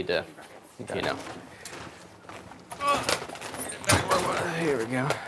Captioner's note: machinery moving around